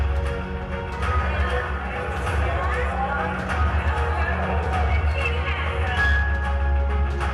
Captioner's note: crowd noise